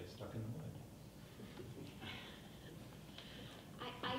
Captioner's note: people chuckling